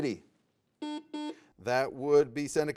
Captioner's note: buzzer beeps